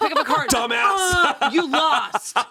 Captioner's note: laughing